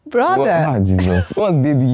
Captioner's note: laughs